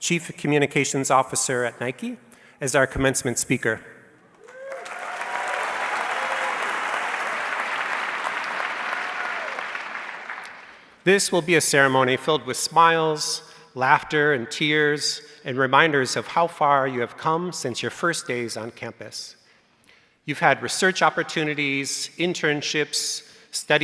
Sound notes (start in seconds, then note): 4.3 audience clapping